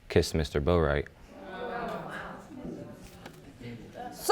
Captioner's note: audience gasps